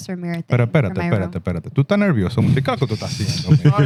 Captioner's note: laughter; non-english Speech